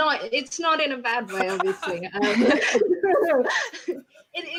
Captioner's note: laughing